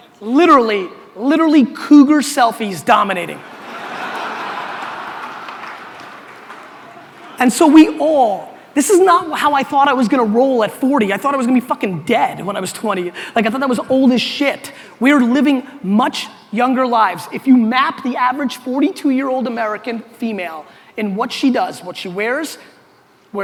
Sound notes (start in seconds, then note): 3.4 audience laughter